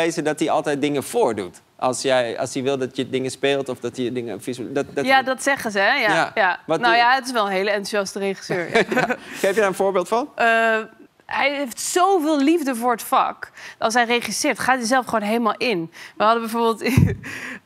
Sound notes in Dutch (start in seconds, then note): 8.5 gelach